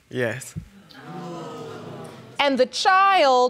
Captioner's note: audience gasps